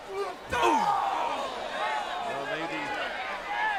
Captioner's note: wrestlers grunting